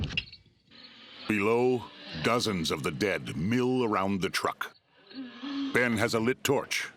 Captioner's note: guttural moaning